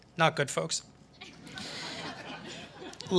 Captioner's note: laughter